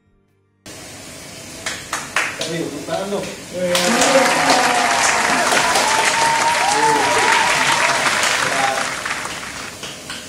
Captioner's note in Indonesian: tepuk tangan